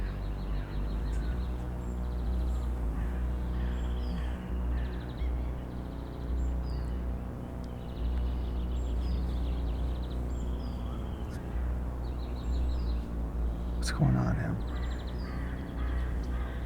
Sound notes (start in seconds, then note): none